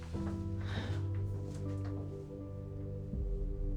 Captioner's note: Hope sighing